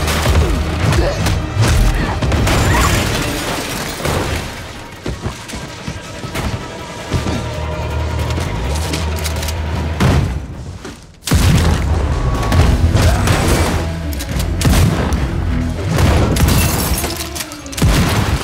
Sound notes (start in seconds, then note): 11.4 dramatic suspense music; 11.4 gun blasting